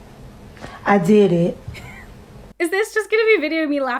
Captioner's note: laughing